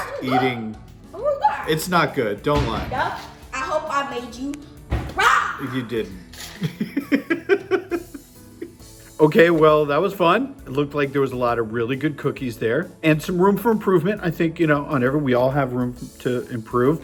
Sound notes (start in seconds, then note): 6.4 laugh